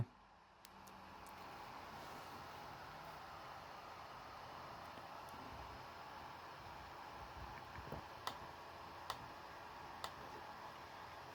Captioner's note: laptop dvd drive spinning